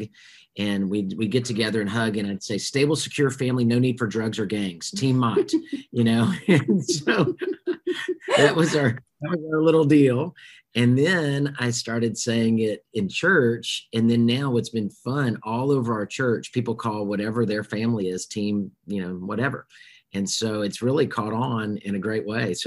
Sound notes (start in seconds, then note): 6.2 laughs; 6.3 laughing